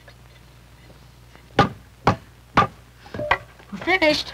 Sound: hammer bangs on wooden stilt

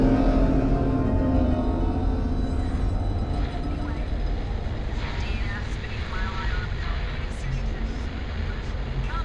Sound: radio chatter on helmet, sounds from the city behind

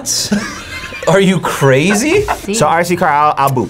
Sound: laughs

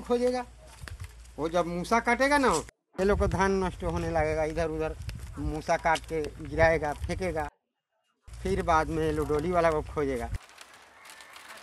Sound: plastic sack

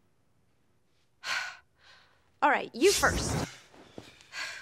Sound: sighs

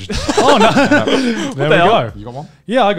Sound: laughing

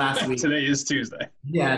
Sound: laughs

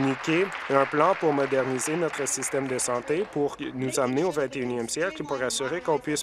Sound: applause

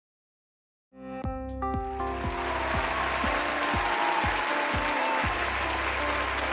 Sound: upbeat music; audience applauding

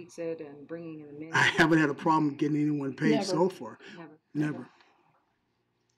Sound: laughing

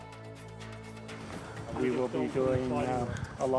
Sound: voiceover

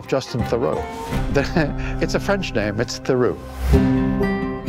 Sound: chuckle

